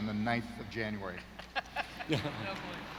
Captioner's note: laughs